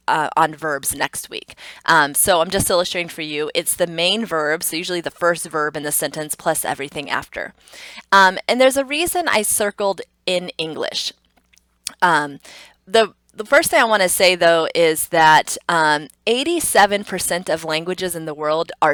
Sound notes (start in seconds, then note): 11.7 tongue clicks